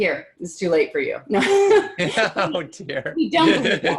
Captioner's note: laughing